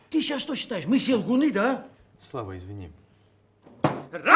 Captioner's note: cursing in Georgian